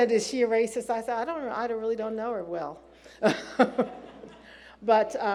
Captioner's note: laughs